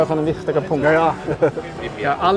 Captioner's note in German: lacht